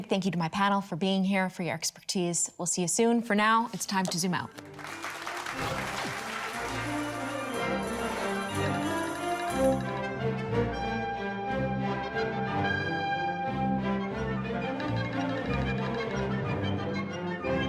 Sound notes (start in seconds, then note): 4.2 bright upbeat music; 8.4 audience clapping; 12.0 bright upbeat music